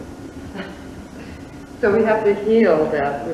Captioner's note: laughs